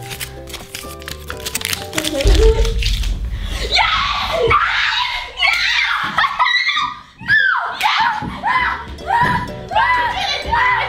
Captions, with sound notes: - Yes, yes, yes! (cheering) - No! (screaming)